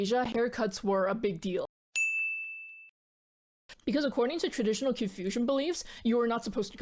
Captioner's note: ding